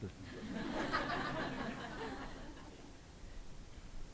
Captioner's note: audience laughs